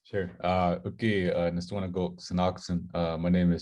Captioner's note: Speaking Blackfoot